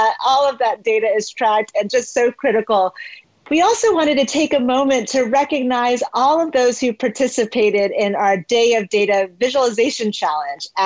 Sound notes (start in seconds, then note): none